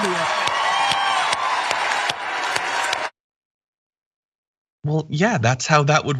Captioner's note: applause